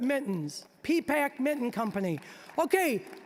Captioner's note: scattered applause